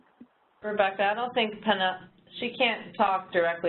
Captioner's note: voiceover